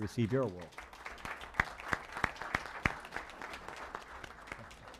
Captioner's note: applause